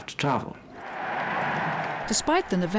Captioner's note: crowd cheering